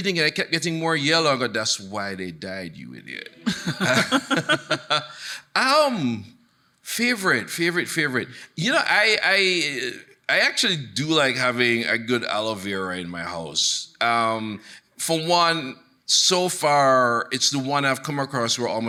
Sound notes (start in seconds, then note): 3.4 chuckling; 3.4 laughs; 3.4 audience laughing